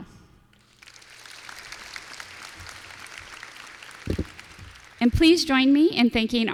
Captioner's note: applause